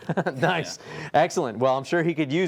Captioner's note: chuckling